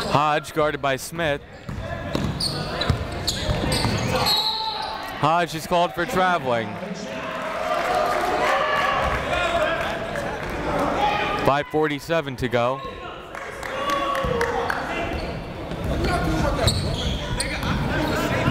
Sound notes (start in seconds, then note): 4.2 whistle; 8.0 clapping; 14.4 chatter